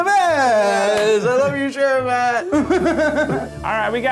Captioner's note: laughing